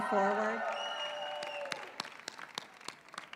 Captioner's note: cheering